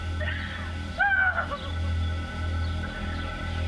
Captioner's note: cries